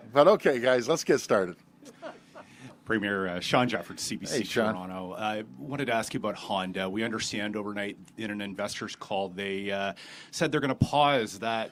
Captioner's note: laughter